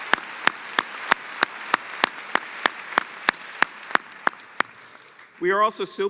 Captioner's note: applause